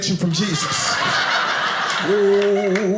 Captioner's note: audience laughing